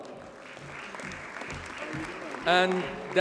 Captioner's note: audience applauds